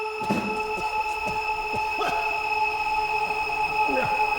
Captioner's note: Danny coughs